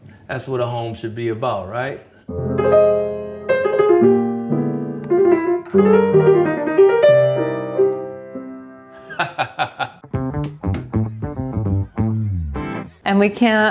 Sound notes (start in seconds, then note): 9.0 laugh; 10.1 upbeat rock music